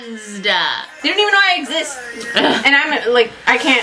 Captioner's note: laughs